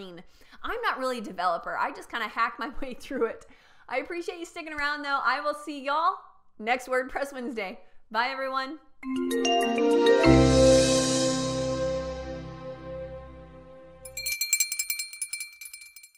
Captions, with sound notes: I'm not really a developer. I just kinda hack my way through it. I appreciate you sticking around, though. I will see y'all next WordPress Wednesday. Bye, everyone. (theme jingle) (bell ringing)